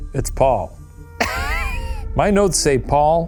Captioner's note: laughing